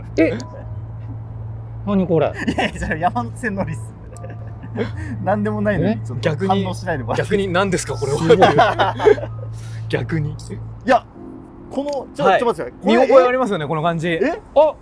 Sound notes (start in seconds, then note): 3.6 laughing